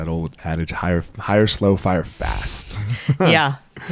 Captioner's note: both laugh